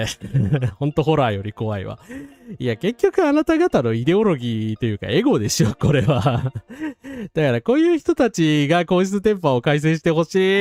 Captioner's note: laughs